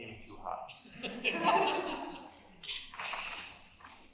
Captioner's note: laughter